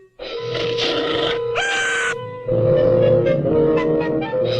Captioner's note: creature growls; watchman screams